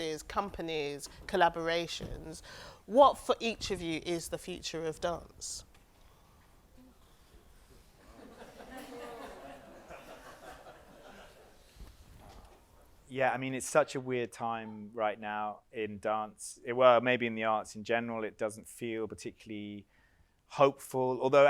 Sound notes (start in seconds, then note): 8.0 audience laughs